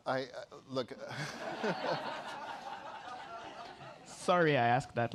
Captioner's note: laughter